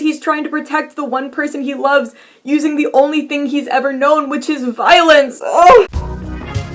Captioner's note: sobs